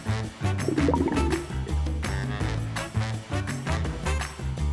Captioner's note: water bubbling